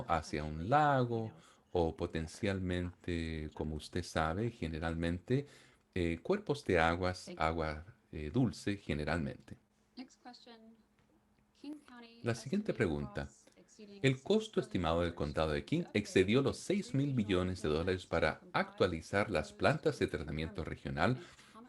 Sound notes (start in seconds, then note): 9.6 hablando inglés